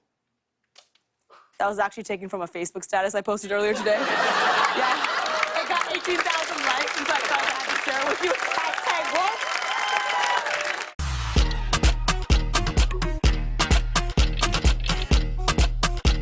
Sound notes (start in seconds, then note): 3.6 laughter; 8.1 cheers and applause